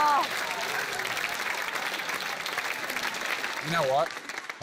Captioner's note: applause